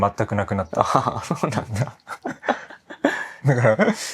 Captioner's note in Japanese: 笑い